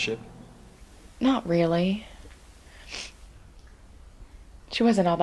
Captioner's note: sniffs